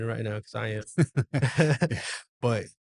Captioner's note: laughs